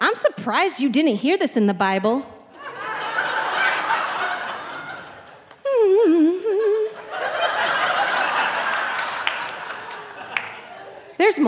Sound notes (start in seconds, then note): 2.5 audience laughing; 5.6 humming; 9.3 audience laughing